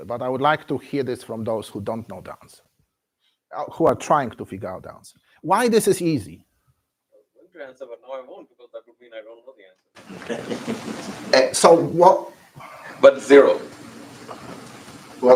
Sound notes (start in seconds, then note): 10.0 laughs